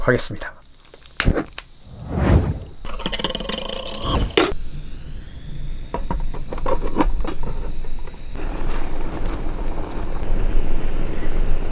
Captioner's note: the sound of delicious rice being cooked